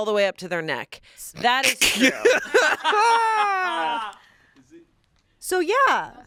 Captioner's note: crew laughing